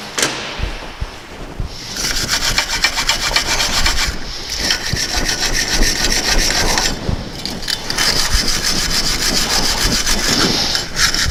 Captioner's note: wire Brush Sound